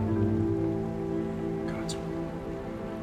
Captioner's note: whispers